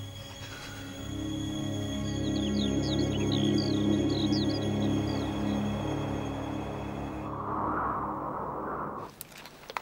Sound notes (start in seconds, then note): 1.4 birds chirping